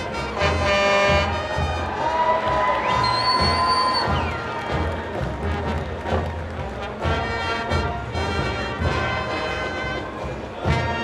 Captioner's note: truck honking